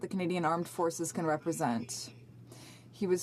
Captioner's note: speaking French